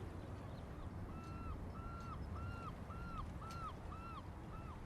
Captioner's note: birds cawing